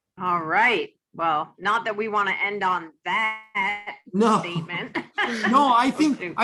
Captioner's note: laughs